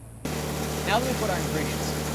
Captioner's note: mill whirring